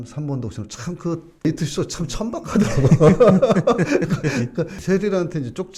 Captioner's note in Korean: 웃음